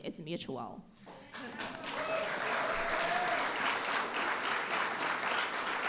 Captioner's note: applause